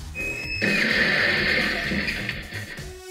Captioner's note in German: Krachen von Metall